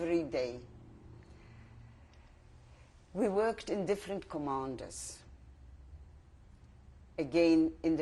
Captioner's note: pauses for 3 seconds